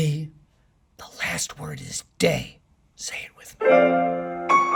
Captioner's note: whispering